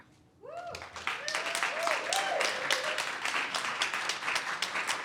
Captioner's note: audience cheers and applause